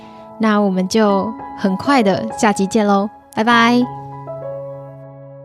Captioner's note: speaking chinese